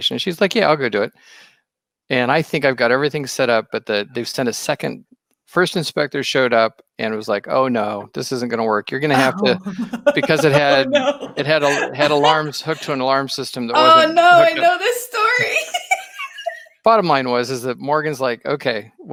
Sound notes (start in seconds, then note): 15.8 laughing